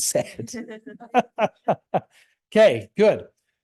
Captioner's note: laughs